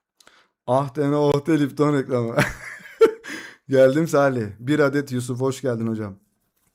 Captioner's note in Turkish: kahkaha